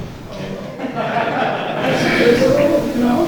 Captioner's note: audience laughing; laughing drowns out speaker